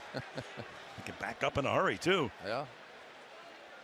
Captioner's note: laughs